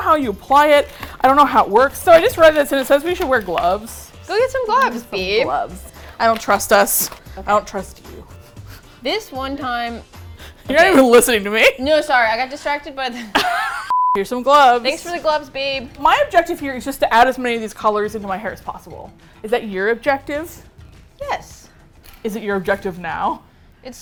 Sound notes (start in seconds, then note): 13.1 laughs; 13.2 both laugh